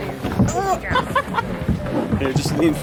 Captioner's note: laughing